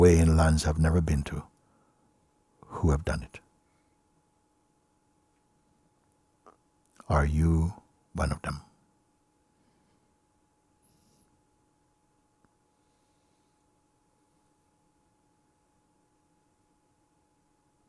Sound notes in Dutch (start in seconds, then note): 11.9 stilte